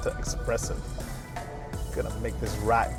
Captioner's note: car humming